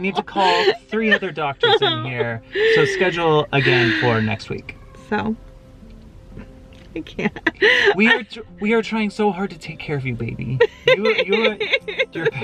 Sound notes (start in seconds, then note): 6.8 chuckles; 10.6 laughs